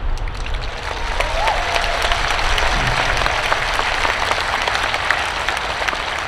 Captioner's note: students clapping; students cheering